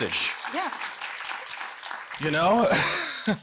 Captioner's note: audience applauding